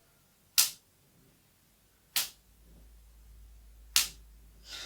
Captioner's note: rubber band snap; dismissive laugh